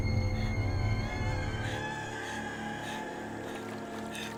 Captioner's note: panting